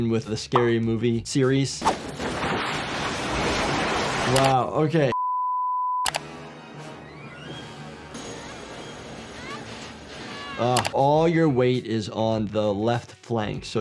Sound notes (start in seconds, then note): 2.0 garage doors clattering; 5.1 test screen beeping; 6.2 dramatic music; 8.6 Tatum wailing